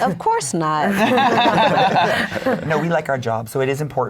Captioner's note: laughing